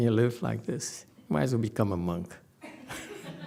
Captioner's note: laughs